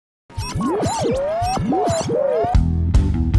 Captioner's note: radio frequency; upbeat music